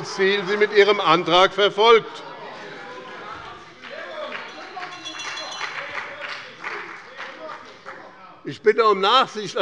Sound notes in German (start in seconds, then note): 3.4 Beifall bei dem BÜNDNIS 90/DIE GRÜNEN und der CDU - Lebhafte Zurufe von der SPD